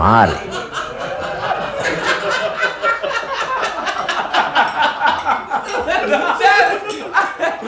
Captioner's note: laughs